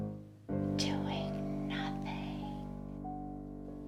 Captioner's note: whispers